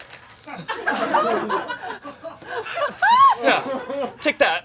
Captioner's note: audience laughing